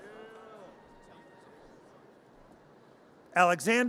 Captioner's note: audience cheers